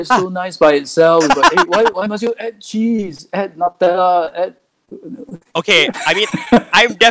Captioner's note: laughs